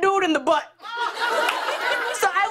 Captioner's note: laughter